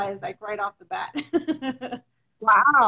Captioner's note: laughs